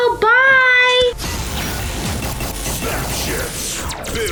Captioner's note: robotic laser firing